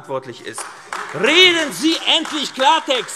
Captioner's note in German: Beifall AfD - Zurufe CDU